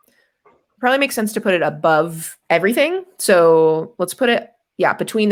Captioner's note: none